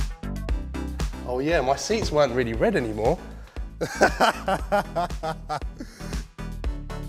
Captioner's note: laughs